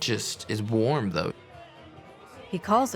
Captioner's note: background chattering